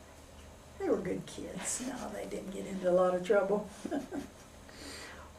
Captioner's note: laughs